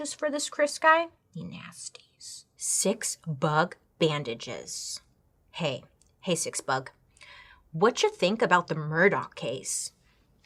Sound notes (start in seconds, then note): none